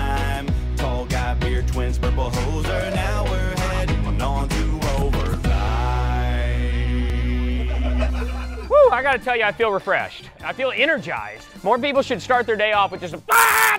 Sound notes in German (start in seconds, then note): 7.2 gelächter; 13.3 lachen